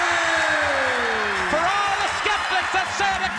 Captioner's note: crowd chatter